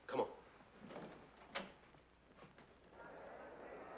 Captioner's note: door opens